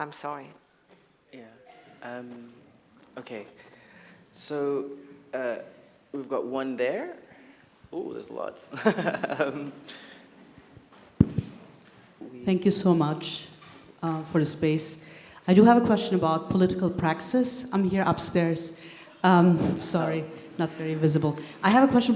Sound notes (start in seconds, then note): 8.7 he laughs